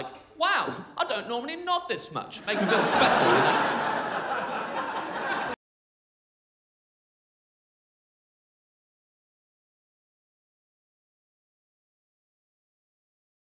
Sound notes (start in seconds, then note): 2.4 crowd laughing